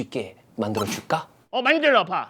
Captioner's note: snorts